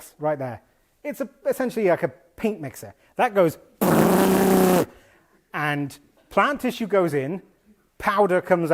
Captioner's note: makes blender sound